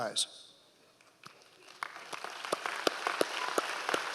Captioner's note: applauds